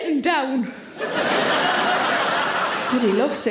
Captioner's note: audience laughing